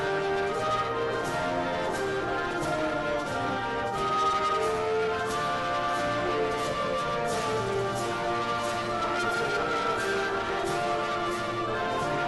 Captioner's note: applause